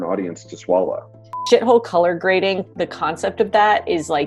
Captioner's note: beep